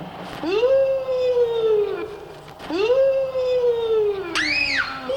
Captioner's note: Danny imitates ghostly howling; Amy screams